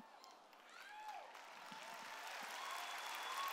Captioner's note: cheers